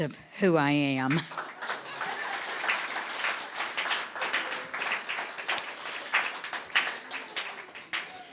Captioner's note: audience clapping